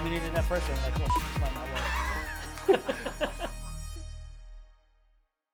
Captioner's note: beeps